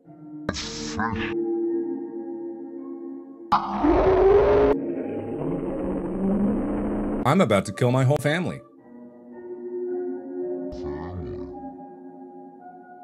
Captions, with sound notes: a fish. [screaming] [screaming but slower] I'm about to kill my whole family. family.